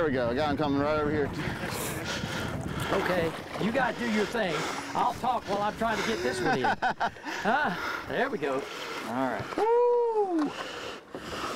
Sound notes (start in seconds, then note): 5.9 laughing